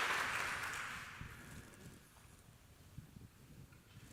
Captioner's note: applause